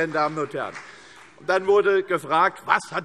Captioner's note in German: Beifall CDU und BÜNDNIS 90/DIE GRÜNEN